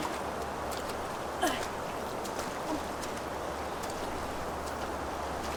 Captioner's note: Anna grunting